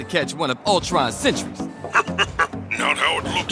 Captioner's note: chuckling